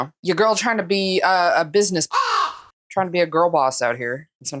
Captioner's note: caw